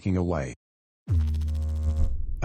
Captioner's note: electrical noise